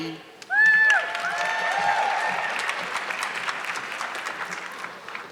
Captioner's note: audience clapping